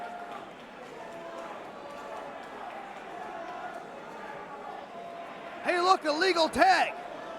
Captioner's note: crowd chatter